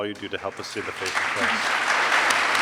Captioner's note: applause